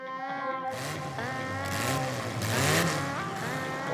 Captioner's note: motorcycle engine revs